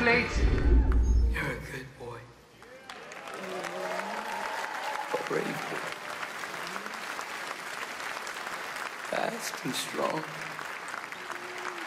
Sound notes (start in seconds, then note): 4.1 applause